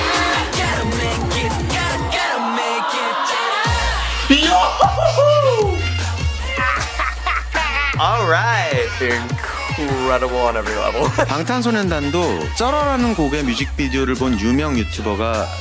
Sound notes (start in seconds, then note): 6.4 laughs excitedly; 10.7 laughs